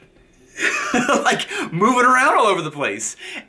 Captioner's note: laughs